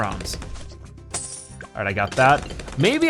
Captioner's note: coins jingling